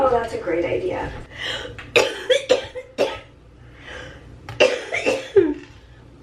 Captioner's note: coughing